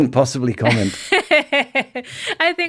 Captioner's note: laughing